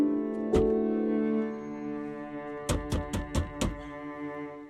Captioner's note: hands thudding